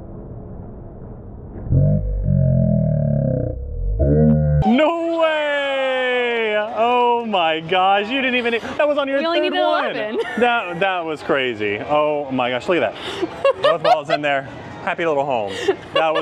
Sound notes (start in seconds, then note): 1.9 groaning